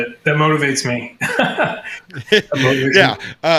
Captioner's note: both laughing